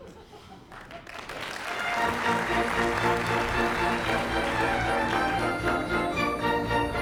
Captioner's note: applause